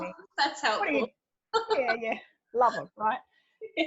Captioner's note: laughs